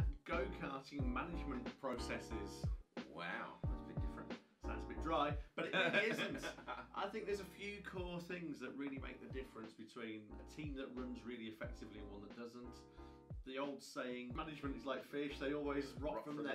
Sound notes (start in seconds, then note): 5.6 laughing